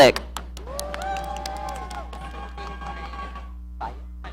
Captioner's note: audience cheering